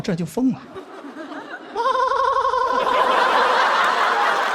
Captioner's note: laughing